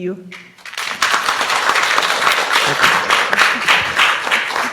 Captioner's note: students applauds